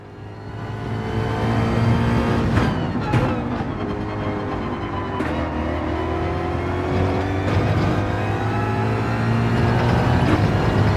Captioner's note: engines revving, tyres grip, racing sounds